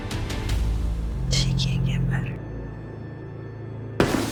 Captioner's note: whispering